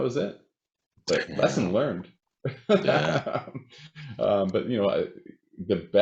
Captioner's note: chuckles